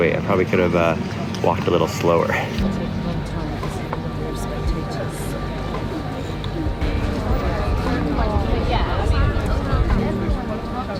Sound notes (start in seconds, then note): 2.6 solemn music playing; 2.7 chatter